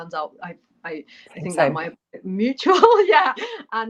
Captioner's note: laughter